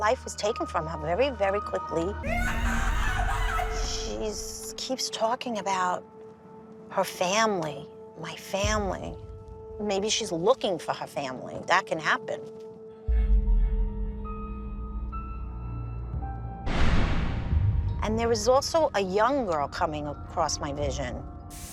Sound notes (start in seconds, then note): 2.2 garbled screams; 13.0 ominous music